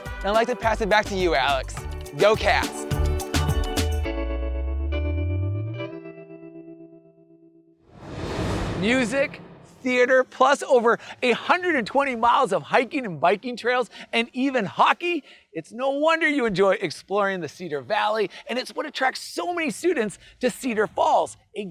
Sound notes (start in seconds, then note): 3.1 bright music; 7.9 graphics whooshing